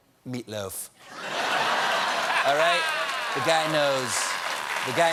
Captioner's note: laughter